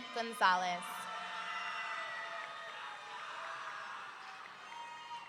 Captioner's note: audience cheering